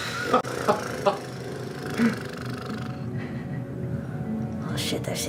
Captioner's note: blows raspberry